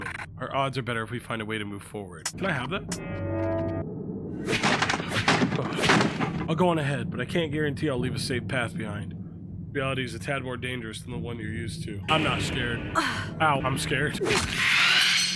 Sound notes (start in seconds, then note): 12.8 groans; 14.5 rat yells